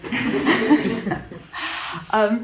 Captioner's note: laughter